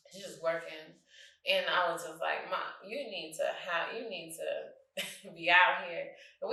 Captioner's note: chuckles